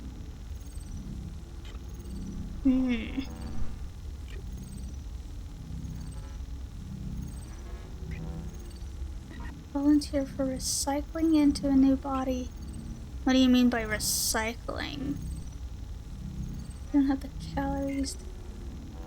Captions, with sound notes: [whimpers] Volunteer for recycling into a new body. What do you mean by recycling? You don't have the calories to...